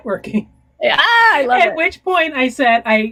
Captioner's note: laughing